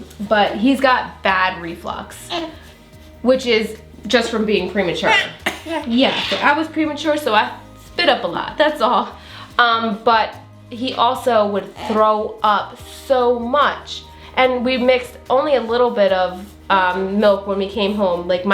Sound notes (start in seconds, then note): 5.0 child coughs